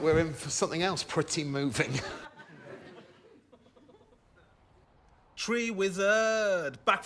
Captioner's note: laughter